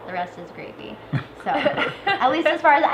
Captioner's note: laughter